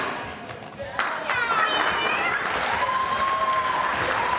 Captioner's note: meows, applause